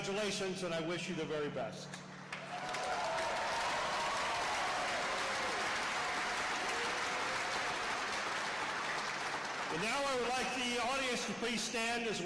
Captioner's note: applause